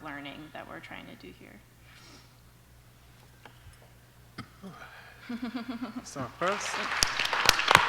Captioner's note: applause